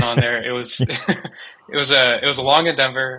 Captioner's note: chuckling